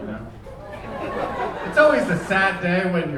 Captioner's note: audience laughing